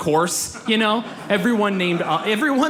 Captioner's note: audience laughs